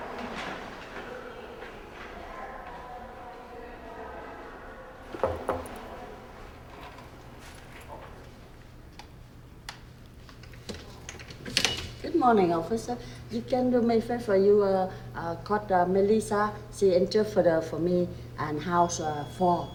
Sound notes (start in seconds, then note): 5.0 light knock